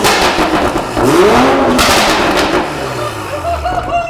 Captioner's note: engine revving; laughing